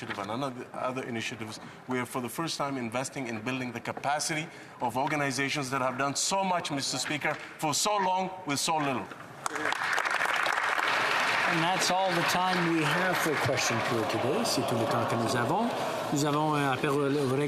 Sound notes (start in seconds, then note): 12.0 applause